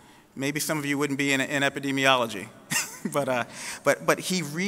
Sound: laughing

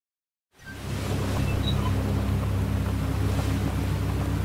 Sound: powerful desert wind gusts

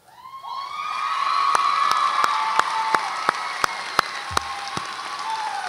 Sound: audience applauds and cheers

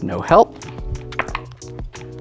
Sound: dice clattering

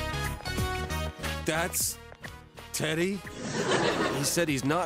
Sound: audience laughs, but more like a chuckle

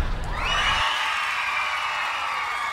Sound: cheering

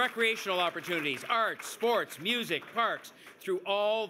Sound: cheers and Applause

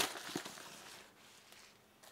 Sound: plastic rustling

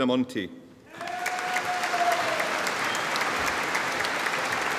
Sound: audience applauding

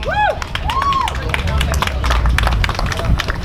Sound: people hooting; applause

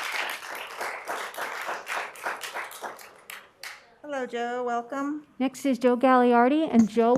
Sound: applause

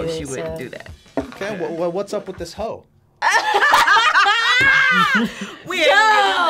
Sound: both laugh

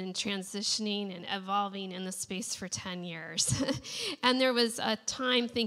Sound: laughs

